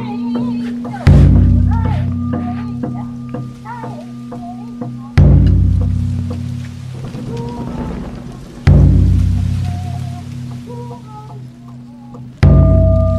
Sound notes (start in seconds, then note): 3.4 rain Spattering; 7.1 thunder Booming